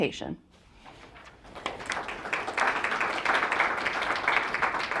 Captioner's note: audience applauding